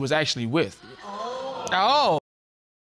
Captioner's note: audience exclaiming